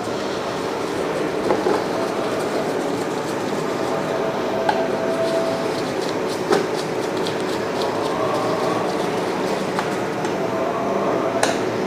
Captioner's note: screw sound